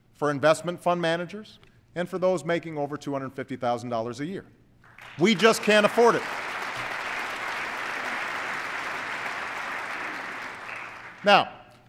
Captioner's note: applause